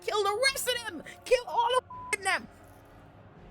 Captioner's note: beep